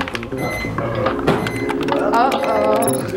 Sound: beeping; chattering

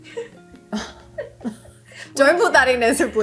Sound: laughing

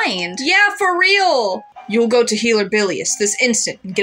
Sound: none

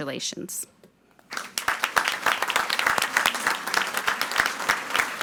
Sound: audience applauding

